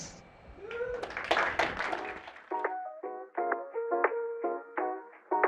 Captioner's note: applause